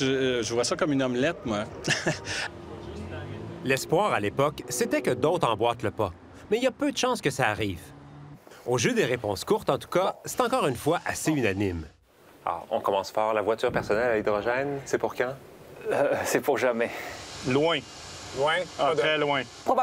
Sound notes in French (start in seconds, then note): 1.8 petit rire